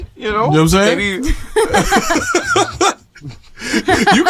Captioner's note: laughter